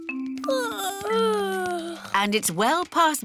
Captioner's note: yawning